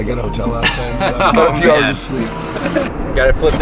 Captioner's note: laughing